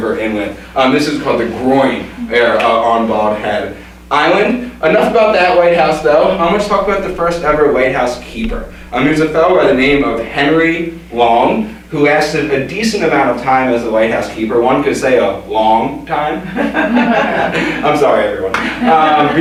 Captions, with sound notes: river inlet. And this is called the "groin" there on Bald Head Island. Enough about that lighthouse, though. I'm going to talk about the first ever lighthouse keeper. It's a fellow by the name of Henry Long, who has a decent amount of time as a white housekeeper. One could say a "long" time. [Audience laughter] I'm sorry.